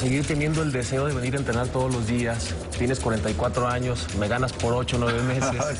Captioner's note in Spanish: risas